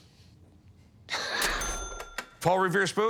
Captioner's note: laughs